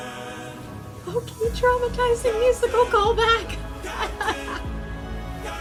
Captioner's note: laugh cry